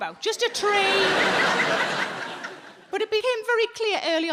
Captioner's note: audience laughing